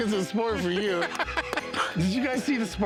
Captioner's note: laughter